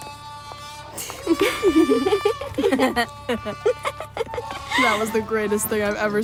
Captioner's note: laughs